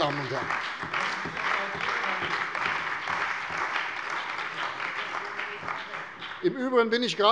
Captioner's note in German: Beifall bei der CDU und dem BÜNDNIS 90/DIE GRÜNEN